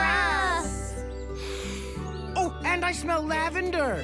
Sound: inhaling deeply

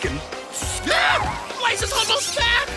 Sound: shrieking

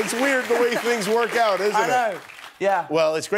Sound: cheers and applause

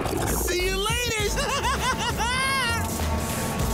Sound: giggling

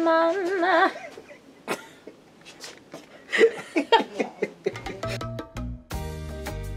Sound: laughs

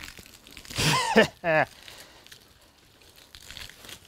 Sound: laughing

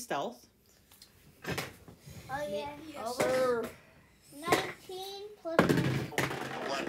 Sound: die rolling and mathing noises

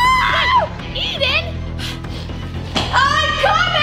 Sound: huffs

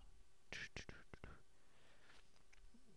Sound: humming

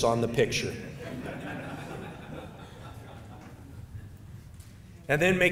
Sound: audience laughing

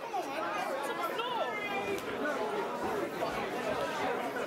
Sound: crowd talking

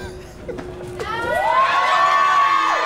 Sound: crowd cheers!!!!

